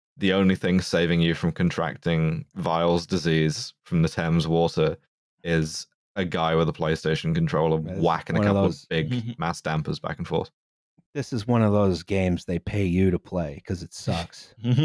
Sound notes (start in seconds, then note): 8.4 chuckles softly; 14.6 laughing; 14.7 laughter